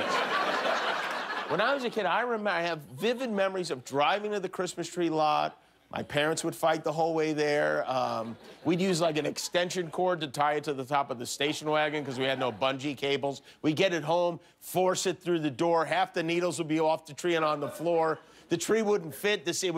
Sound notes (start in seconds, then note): 0.0 cheers and applause; 4.2 laughter